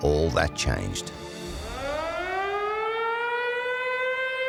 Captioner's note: air raid alarm